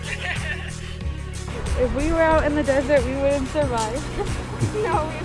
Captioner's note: laughs